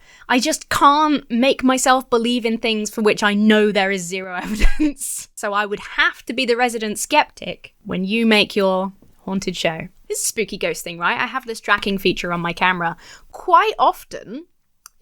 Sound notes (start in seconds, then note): 4.4 laughs